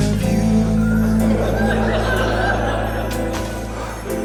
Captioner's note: laughter